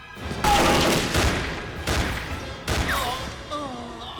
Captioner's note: gunfire clattering; Castellano groans